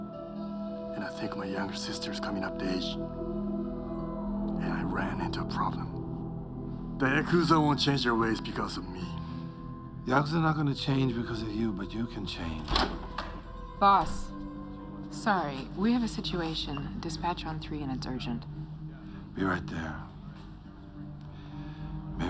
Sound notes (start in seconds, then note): 12.6 door opens